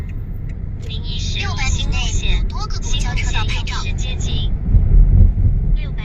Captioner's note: too much of something in Chinese